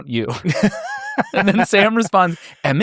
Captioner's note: laugh